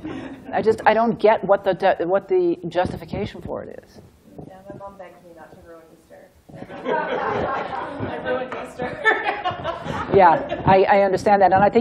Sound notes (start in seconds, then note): 6.6 laughter